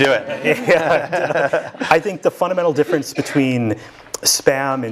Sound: laugh

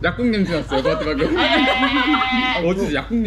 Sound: laughing

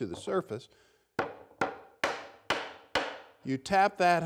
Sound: hammering sound

